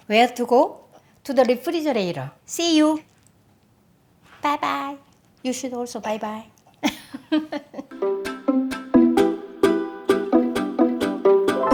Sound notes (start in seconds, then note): 6.8 chuckling; 7.9 lively music